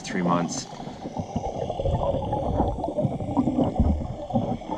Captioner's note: water bubbling